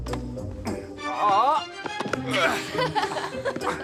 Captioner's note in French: les deux grognent